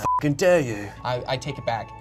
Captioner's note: beep